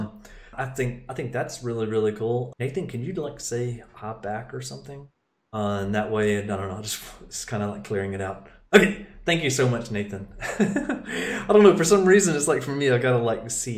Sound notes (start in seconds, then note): 10.4 laughing